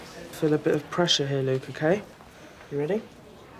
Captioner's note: none